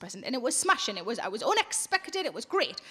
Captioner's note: none